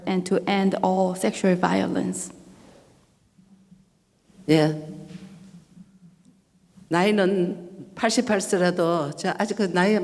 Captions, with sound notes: and to end all sexual violence. (speaking foreign language)